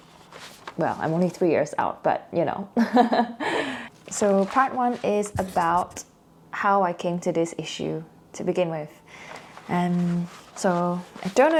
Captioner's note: heheh